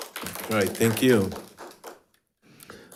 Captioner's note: crowd applauding